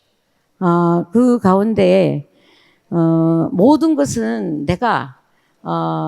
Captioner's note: speaking in foreign language